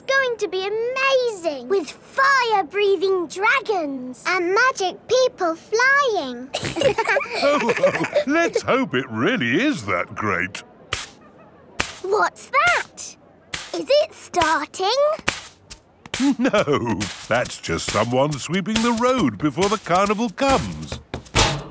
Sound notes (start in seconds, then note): 6.5 all laughing; 10.9 brushing